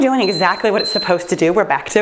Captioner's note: timer beeps